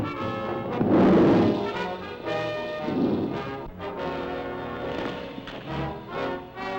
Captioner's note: lizard bellowing; triumphant music